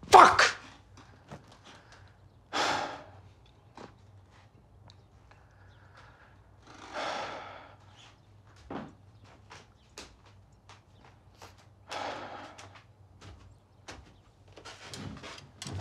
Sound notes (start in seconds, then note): 2.7 Tyler sighs; 7.1 Tyler sighs; 12.1 Tyler sighs